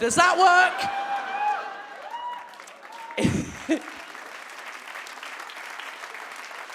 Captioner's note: audience whoops and claps